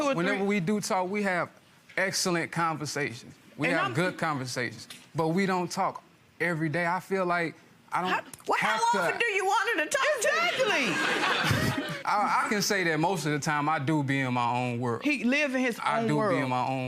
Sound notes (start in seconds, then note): 12.1 audience laughter